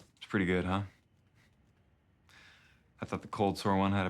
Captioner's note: none